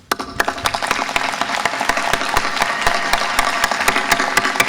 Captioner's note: audience applause